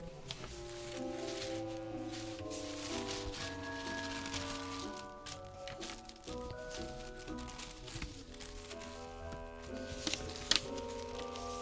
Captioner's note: paper rustling